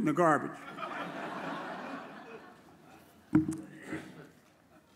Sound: audience chuckles

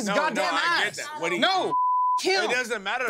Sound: beep

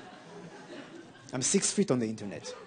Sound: audience laughing

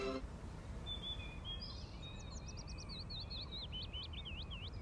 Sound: birds chirping

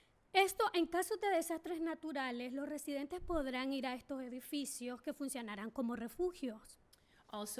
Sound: speaking spanish

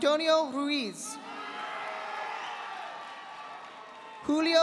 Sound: audience applauding

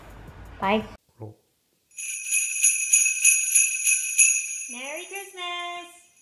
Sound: jingle bells ringing

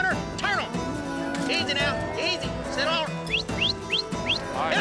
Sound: whistling

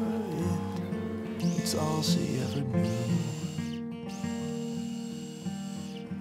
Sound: slightly grind

